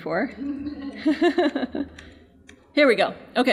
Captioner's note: laughing